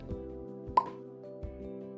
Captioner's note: pop